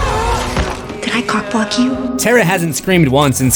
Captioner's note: screams